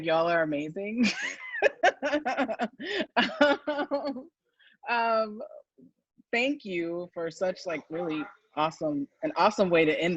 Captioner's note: laughs